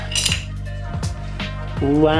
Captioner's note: clinking sound